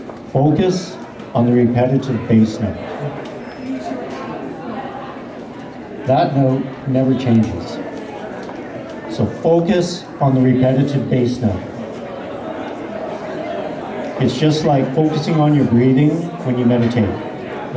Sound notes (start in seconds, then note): none